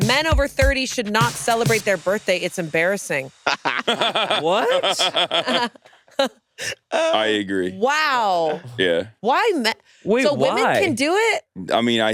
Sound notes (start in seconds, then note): 3.4 laughing; 5.6 laughs